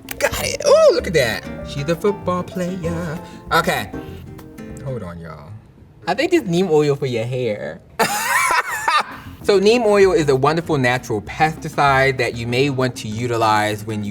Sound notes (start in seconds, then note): 3.9 piano music; 8.0 laughs